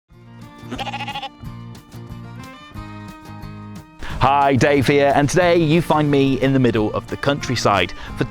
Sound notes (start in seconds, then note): 0.1 bright music; 0.6 sheep bleating